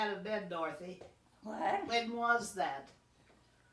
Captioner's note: pat